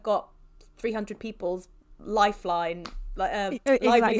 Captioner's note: laughs